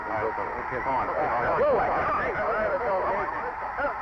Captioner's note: players shouting